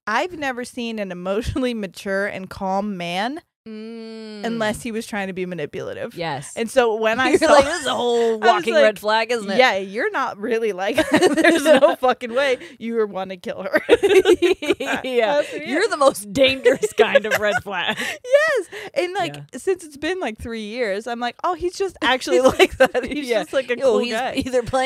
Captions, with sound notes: I've never seen an emotionally mature and calm man, unless he was trying to be manipulative. - Yes. - And so when I- - You're like this is a whole walking red flag, isn't it? - Yeah, you're not really like that. There's no fucking way. You want to kill her. (both laughing) - You're the most dangerous kind of red flag. - Yes. And since it's been like three years, I'm like, oh he's just actually like that. He's just like a cool guy.